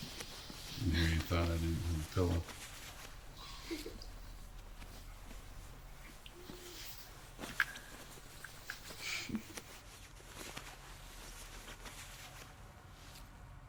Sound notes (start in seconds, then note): 3.4 Alison laughing